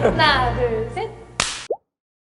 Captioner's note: clap!